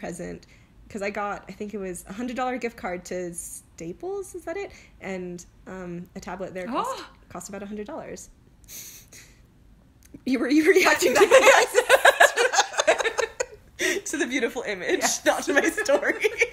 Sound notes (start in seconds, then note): 7.8 gasp!